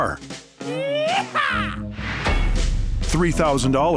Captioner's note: cowboy yell